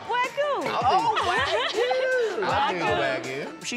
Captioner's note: laughs